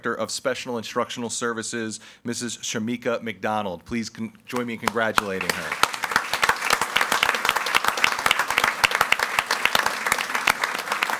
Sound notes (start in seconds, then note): 4.5 audience applauding